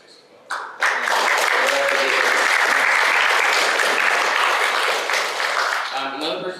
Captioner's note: applause